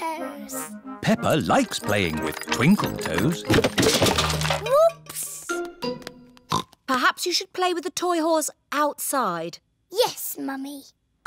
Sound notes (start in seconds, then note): 6.1 oinks